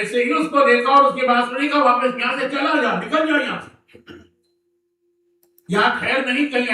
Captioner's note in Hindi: गला साफ़ करने की आवाज़